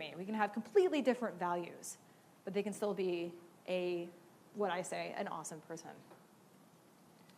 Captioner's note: none